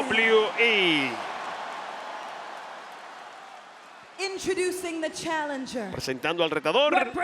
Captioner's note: applause